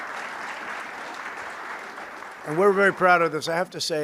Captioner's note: applause